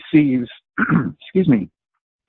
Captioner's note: coughs